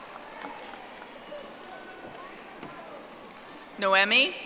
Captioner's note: audience applauding